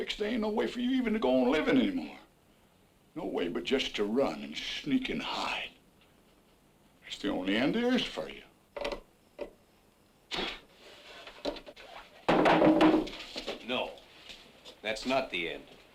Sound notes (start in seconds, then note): 12.2 wood clatters